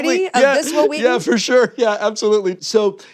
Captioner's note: laughing